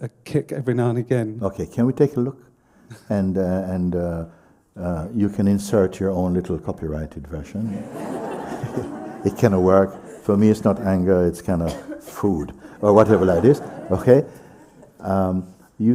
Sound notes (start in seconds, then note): 7.6 laughter